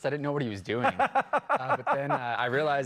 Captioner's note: laughing